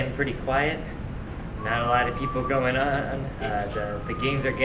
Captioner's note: whistling